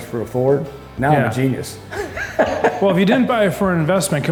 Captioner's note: chuckles